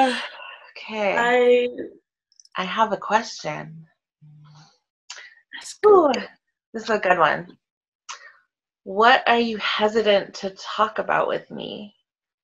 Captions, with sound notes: - Okay, I have a question. Woo, this is a good one. (mutters) What are you hesitant to talk about with me?